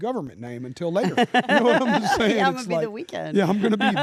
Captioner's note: laugh